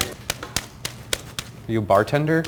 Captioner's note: slapping leaves